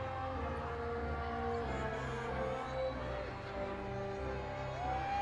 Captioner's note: audience continues cheering